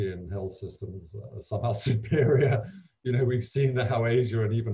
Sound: laughing

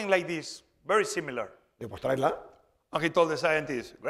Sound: speaking spanish

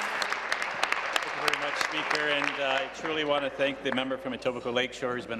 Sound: applause

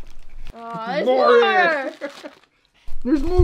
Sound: laughing

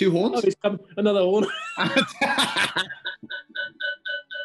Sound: laughter; laughter echoes as feedback

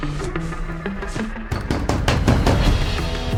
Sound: pounding on door

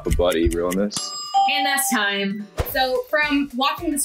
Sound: clock dings

